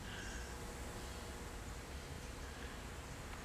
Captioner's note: none